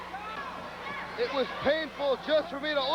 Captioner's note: crowd chatter